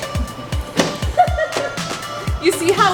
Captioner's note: laughing